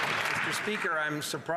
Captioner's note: some Applause